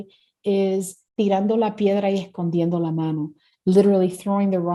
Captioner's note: speaking Spanish